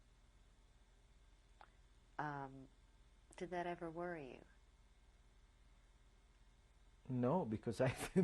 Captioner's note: pauses for 3 seconds